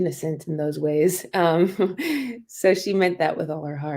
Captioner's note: laughter